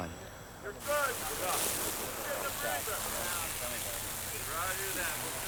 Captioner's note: men talking